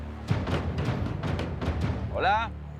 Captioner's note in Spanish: Golpes en la puerta